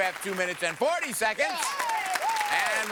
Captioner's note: audience applause